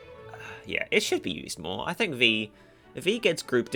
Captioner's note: sigh